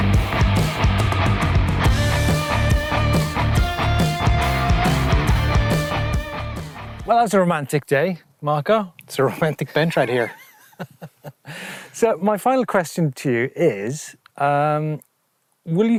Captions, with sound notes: Well, that was a romantic day, Marco. - It's a romantic bench right here. - (chuckles) So, my final question to you is